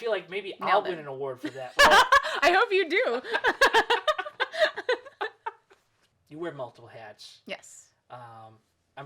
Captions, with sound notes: - I feel like maybe I'll win an award for that. - (laughs) I hope you do. - You wear multiple hats. - Yes.